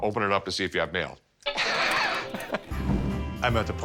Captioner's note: Rick chuckling